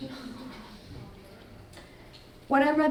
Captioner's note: audience gasping